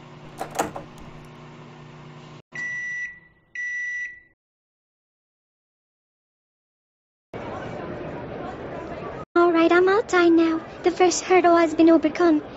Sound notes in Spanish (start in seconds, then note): 2.6 pitido del microondas; 7.6 gente charlando